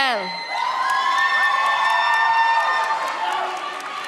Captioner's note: audience cheers